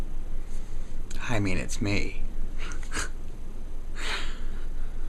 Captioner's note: chuckles